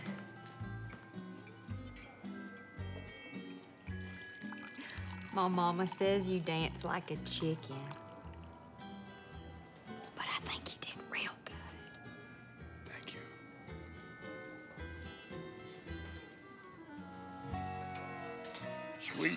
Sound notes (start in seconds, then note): 3.5 pouring coffee; 10.9 whispering